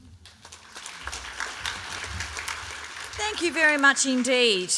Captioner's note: applause